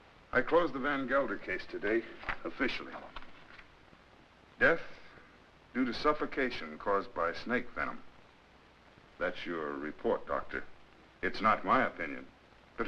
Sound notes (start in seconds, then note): none